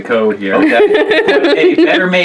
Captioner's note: laughing